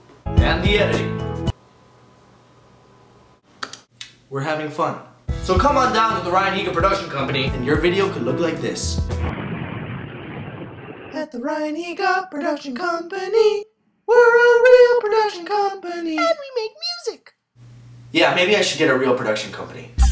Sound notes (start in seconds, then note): 3.6 click